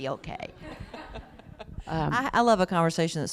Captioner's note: laughter